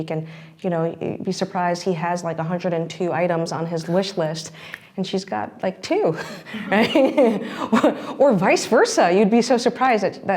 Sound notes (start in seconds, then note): 6.4 laughs